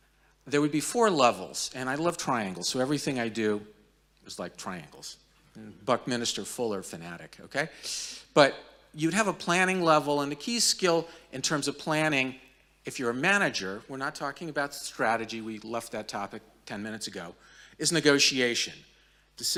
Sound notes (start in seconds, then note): none